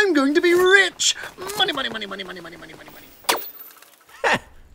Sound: newscaster in the distance

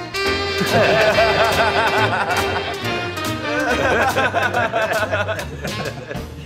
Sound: laughing

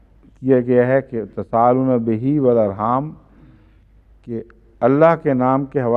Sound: Arabic

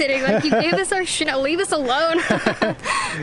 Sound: laughter

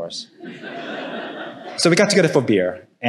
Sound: audience laughing

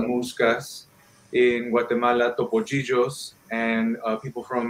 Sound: speaking in foreign language

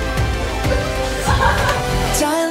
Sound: failed to hold back laughter

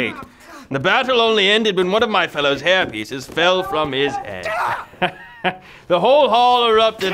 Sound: laughing

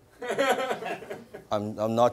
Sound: laughter

